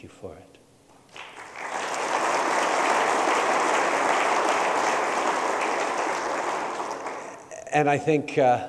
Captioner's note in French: Applaudissements